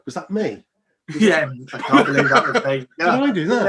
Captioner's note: both laugh